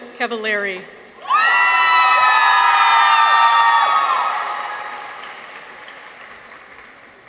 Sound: people cheer; audience applauds

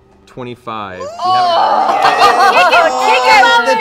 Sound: cheering

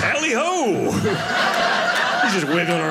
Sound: audience laughing

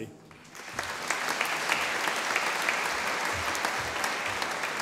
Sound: audience applauding

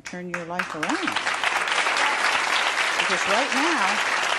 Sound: audience applauding

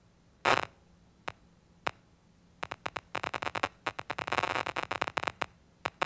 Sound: static sounds

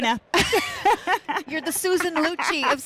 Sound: laughter

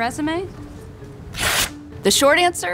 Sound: paper rips

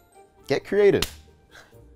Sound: hands slap

